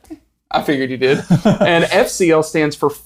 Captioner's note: laughs